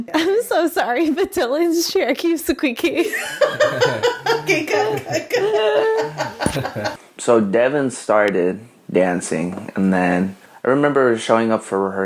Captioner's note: laughing